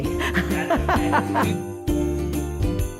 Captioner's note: laughing